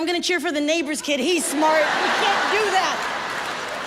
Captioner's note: audience laughs